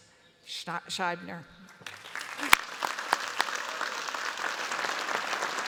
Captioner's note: applause